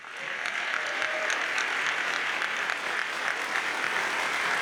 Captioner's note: audience applauds